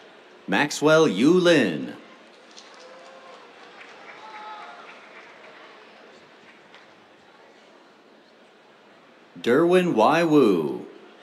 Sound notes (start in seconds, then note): 2.2 applause